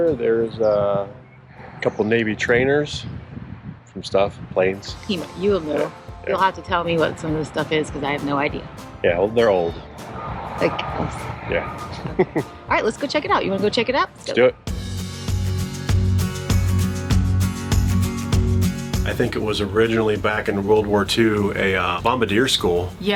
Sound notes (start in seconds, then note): 11.9 chuckles; 15.9 country pop music